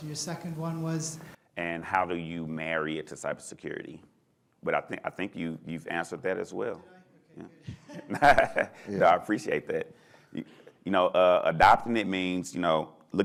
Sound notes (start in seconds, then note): 7.3 laughs